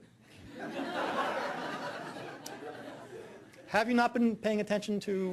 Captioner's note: audience laughing